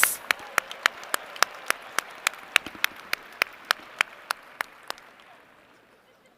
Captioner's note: applause